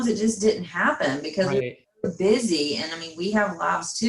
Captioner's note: faintly speaking